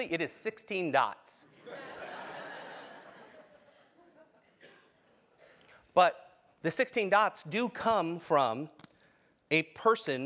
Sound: laugh

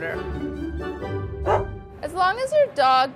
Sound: dog bark

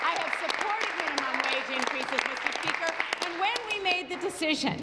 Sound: applause

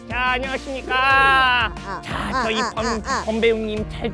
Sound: doing lip trills

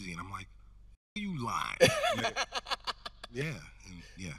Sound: host laughing

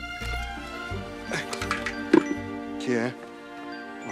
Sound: cell phone rings

